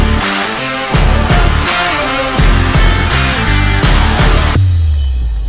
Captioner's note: fire crackling